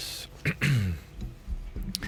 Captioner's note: clears throat